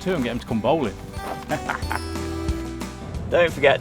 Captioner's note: laughs